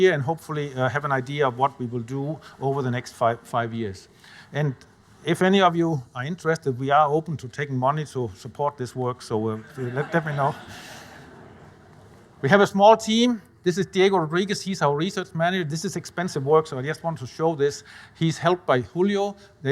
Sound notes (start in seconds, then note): 9.5 audience laughing